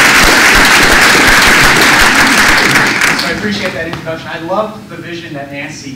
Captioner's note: applause